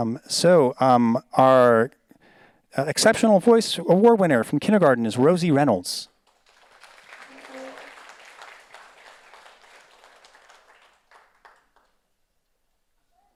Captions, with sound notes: So our exceptional voice award winner from kindergarten is Rosie Reynolds. (audience applauds)